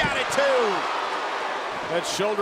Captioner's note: audience cheering